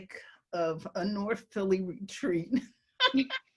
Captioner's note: laugh